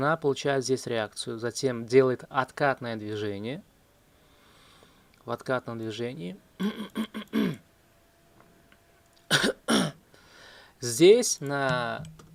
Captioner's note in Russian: кашель; откашливается